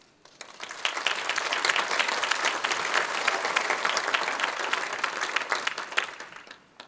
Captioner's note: applause